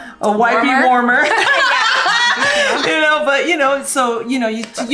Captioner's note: women laugh